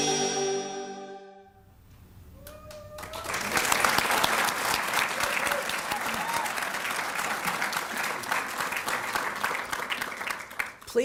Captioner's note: people Clapping & Cheering